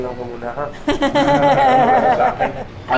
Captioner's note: laughs